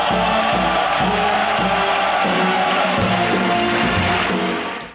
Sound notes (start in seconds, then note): 0.0 audience applauding